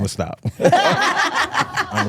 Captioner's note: hosts laughing